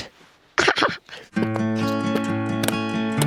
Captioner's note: person laughing; upbeat music